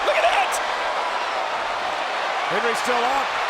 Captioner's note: crowd cheering